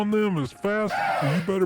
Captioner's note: gasp